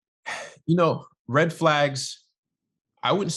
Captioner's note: sighing